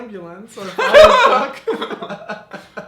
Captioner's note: chuckles